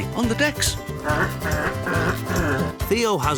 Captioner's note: robot sounds